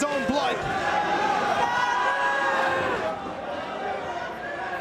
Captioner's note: spectators cheering